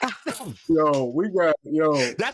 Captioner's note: laughter